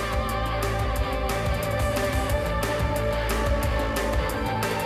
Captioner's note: none